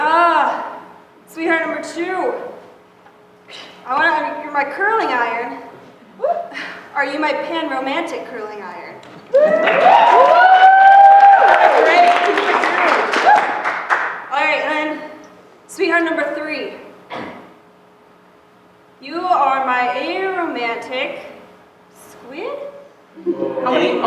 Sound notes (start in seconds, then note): 9.3 cheering; 9.4 applause